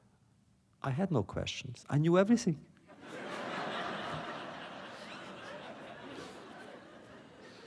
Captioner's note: laughter